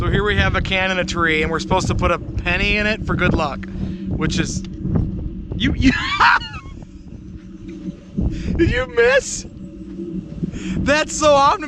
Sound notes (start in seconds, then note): 5.8 laughing; 9.8 laughing